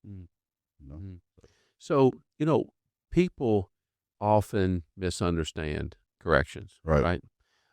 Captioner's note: mumbles mhmm